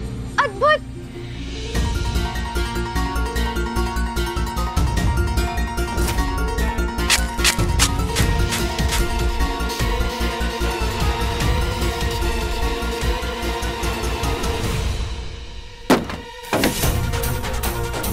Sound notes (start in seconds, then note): 1.5 intriguing music; 7.1 scraping; 16.4 dramatic music